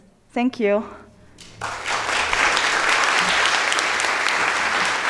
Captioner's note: audience applauding